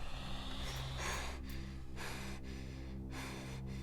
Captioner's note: spider hissing; Lucy panting